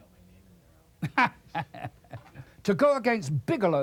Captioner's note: laughs